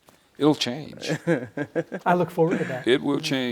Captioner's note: laughs